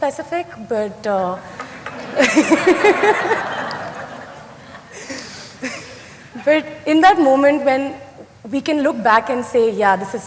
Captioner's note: laughter